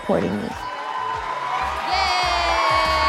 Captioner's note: crowd cheering